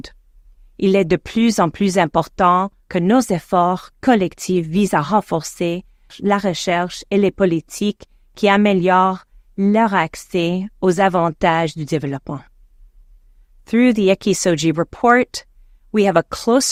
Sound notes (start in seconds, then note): 5.3 speaking in French